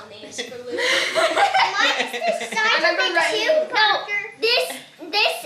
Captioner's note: everyone laughs